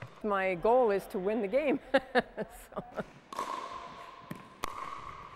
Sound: laughs

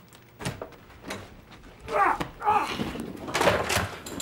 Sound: grunts

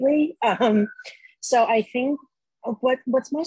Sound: laughs

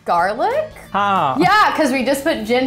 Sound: speaking in Hindi

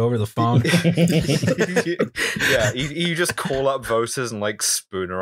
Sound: laughter

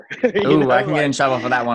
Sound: laughs

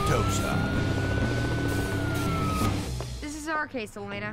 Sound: police siren wailing; helicopter whirring

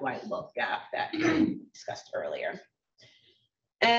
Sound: coughs

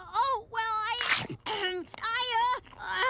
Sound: throat clear

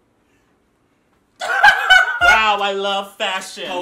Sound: laughing

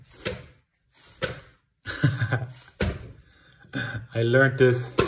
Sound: dough slapping; laughs

